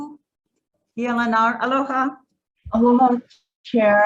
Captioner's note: speaks foreign language